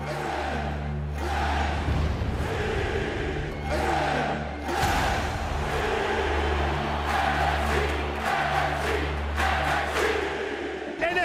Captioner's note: fans chanting